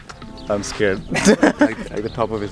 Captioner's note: laughs